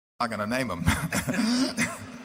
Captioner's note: laughter